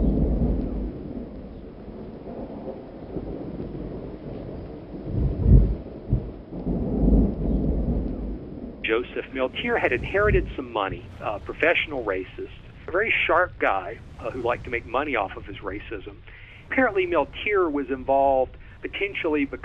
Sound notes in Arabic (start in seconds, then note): 8.8 صوت الرعد